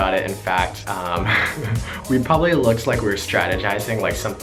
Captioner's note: laughs